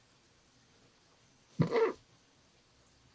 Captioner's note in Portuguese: riso abafado